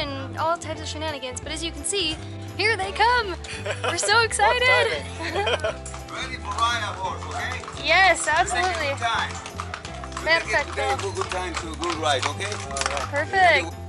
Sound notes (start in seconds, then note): 3.4 laughter